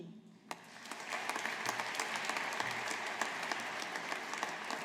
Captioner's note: audience applauding